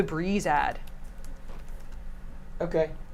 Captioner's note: keyboard clicks